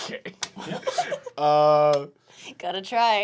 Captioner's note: laughing